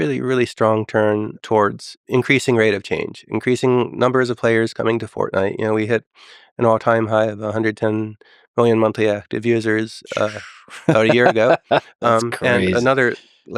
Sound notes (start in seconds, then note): 9.9 Lex laughing